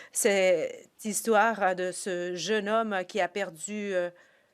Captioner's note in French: voix de l'interprète